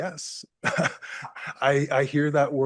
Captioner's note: chuckles